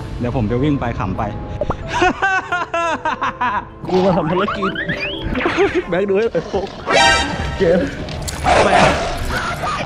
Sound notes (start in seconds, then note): 1.9 laughs